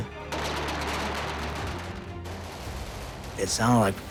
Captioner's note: gun shots